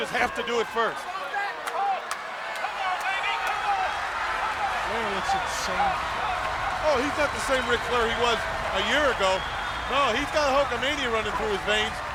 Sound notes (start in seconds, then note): 4.9 audience cheers